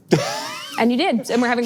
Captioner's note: laughs